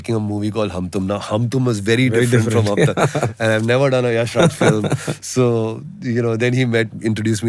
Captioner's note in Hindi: हंसी